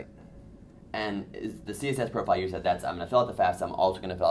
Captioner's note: voiceover